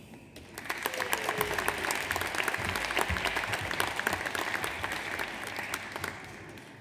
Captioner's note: audience applauds; audience cheers